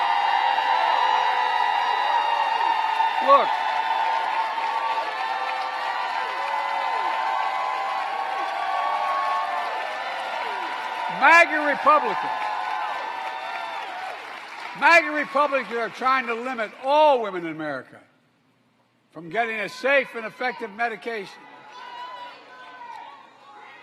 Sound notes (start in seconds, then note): 0.2 applause; 8.8 applause